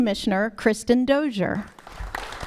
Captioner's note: applause